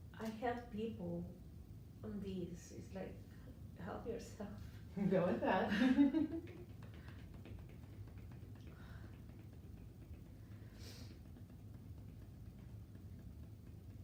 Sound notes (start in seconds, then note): 5.6 chuckles; 5.9 gentle tapping